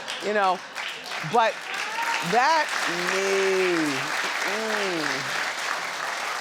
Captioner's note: audience applauds